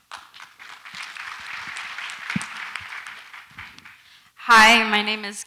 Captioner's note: audience applauds lightly